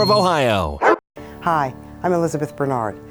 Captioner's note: dog barks